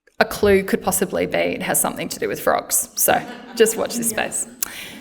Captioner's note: laughter